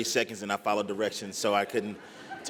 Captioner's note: laughter